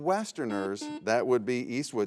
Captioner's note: buzzer buzzes